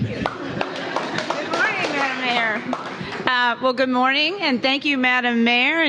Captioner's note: applause